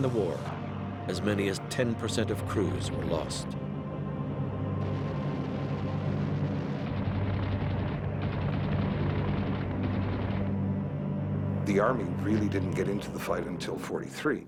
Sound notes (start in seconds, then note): 3.9 gunfire